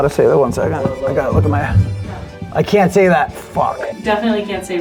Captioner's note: beeps